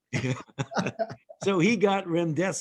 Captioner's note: laughing